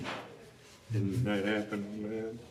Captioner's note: laughs